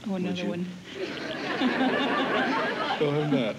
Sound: laughter

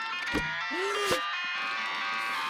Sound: gasping

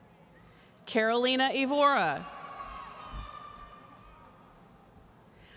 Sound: audience cheering

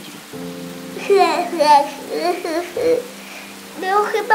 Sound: Jęki

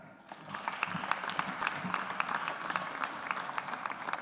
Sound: audience applauds

